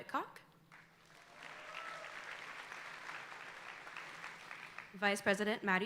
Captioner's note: audience applauding